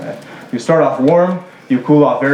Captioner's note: laughter